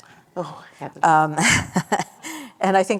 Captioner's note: laughter